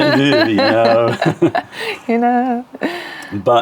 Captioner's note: laughter